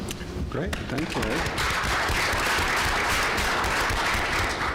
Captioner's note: applause